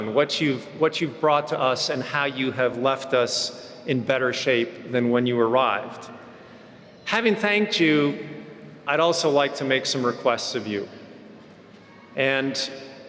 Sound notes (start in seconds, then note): none